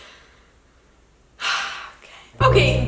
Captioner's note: sighs